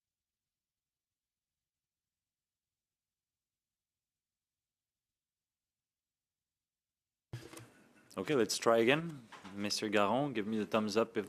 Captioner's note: silence